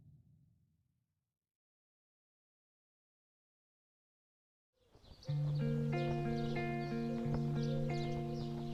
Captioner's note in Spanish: música agradable; sonidos de pájaros